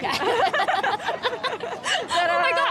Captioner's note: laughing